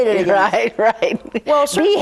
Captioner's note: laughs